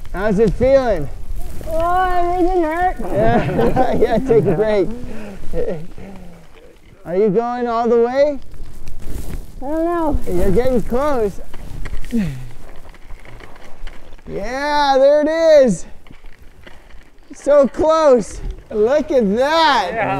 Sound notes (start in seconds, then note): 3.0 collective laughs